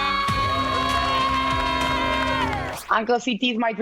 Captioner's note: cheering